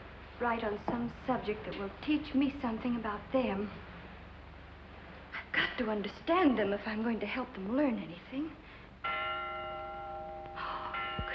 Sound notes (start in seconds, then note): 7.4 bells ringing